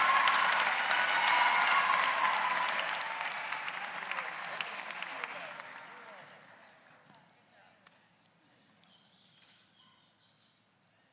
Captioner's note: cheers and applause